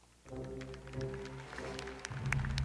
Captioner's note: audience applauding